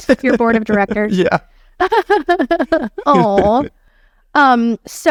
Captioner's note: laughing